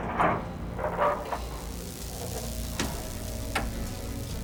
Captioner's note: buzzing